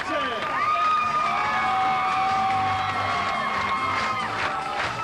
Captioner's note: cheering and clapping